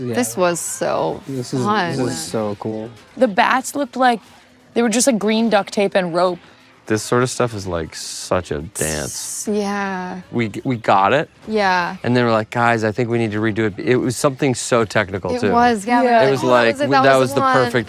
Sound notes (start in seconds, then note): none